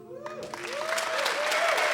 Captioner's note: applause and shouts from the audience